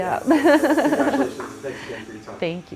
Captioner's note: laughing